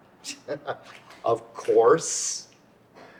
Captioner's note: chuckles